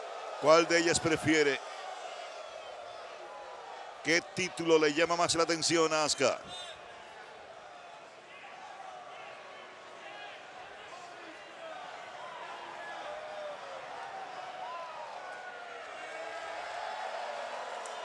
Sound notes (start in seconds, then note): 6.1 applause